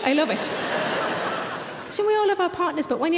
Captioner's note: audience laughing